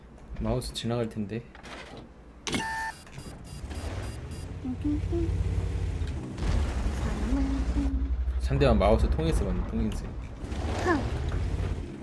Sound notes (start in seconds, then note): 6.9 humming